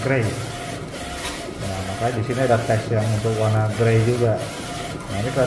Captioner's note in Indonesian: suara mesin printer